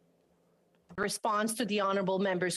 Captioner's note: speaking French